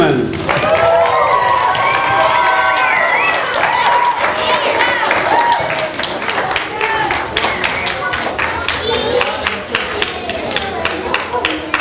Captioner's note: audience applause